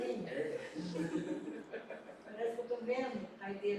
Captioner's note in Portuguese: risos